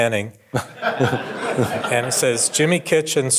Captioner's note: audience laughing